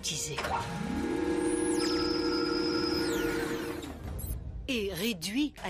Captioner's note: robotizer Sound